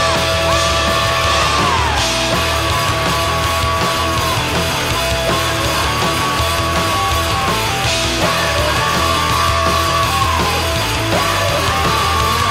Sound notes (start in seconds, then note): 2.5 lots and lots of screaming; 8.3 more screaming aahhhh ahhhh